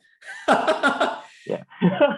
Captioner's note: laughs